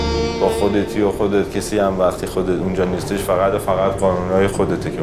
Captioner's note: speaks in other language: translation on screen